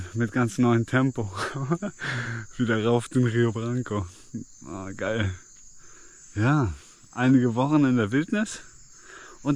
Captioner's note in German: gelächter